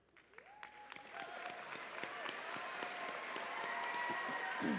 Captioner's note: audience cheering